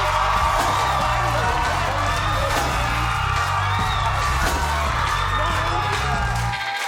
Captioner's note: audience cheering; upbeat music